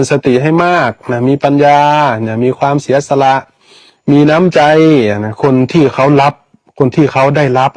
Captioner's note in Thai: เสียงสูดหายใจ